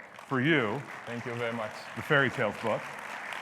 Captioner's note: audience applauds